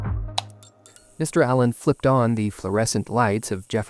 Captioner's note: switch being flipped, lights buzzing